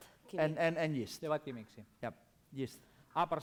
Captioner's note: non-english speech; non-english speech